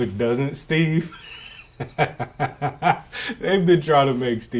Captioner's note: laughs